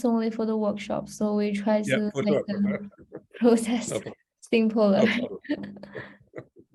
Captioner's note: laughs